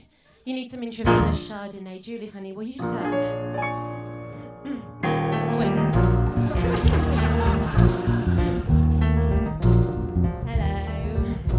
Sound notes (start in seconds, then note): 6.4 laughter